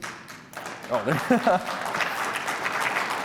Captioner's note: applause